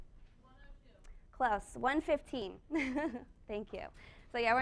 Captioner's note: chuckles